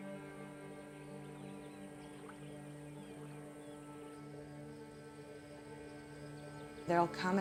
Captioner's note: gentle music continues; birds chirping